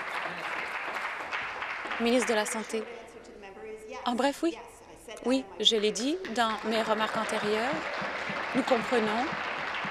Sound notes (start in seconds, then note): 0.0 applause